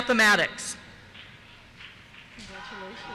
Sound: cheers

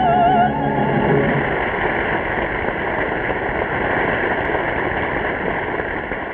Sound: audience applauding

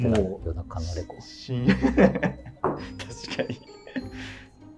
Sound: laughing

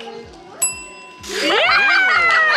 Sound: clink noise; people cheering

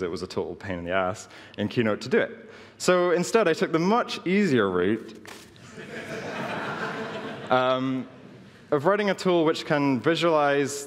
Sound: laughing

